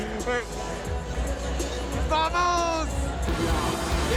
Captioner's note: in foreign language; upbeat rock music